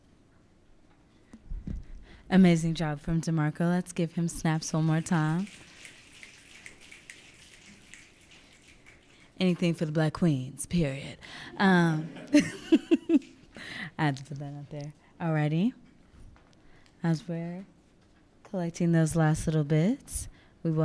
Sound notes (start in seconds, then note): 5.5 audience snapping; 11.6 laughing